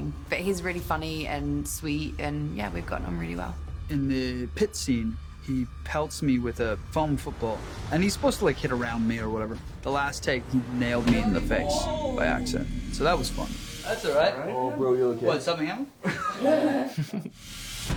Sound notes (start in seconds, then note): 16.0 chuckles; 16.0 cast chuckle